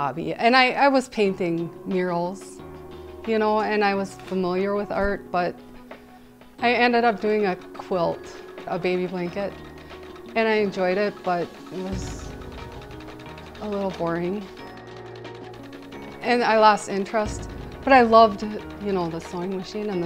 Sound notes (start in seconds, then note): 14.4 sewing machine rattling